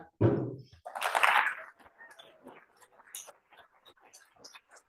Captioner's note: applause